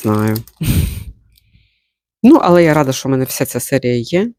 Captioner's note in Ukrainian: сопіння